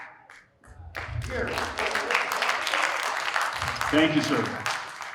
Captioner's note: audience applauding